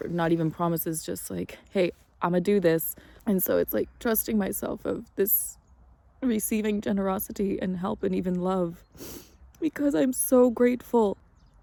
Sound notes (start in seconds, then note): 9.0 sniffles